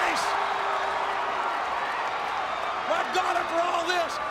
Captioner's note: applause